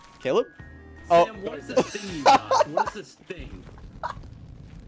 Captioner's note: laughs